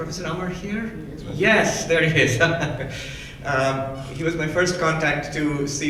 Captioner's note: laughs